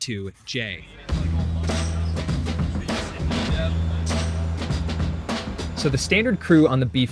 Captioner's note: men chatting; dramatic rhythmic music